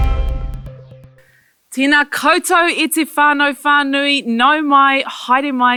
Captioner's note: speaking foreign language